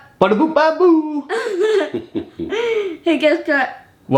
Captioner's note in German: spricht Kauderwelsch